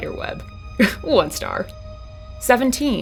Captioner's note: scoff